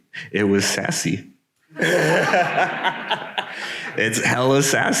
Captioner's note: laughs